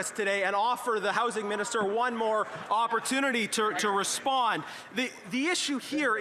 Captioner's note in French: voix de l'interprète